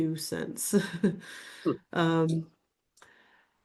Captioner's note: chuckles